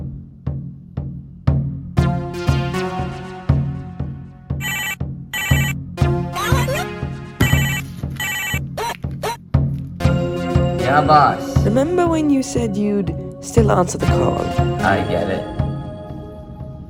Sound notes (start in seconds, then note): 4.6 phone rings